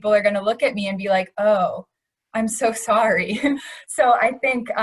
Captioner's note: laughs